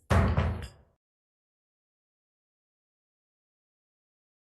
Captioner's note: gavel bangs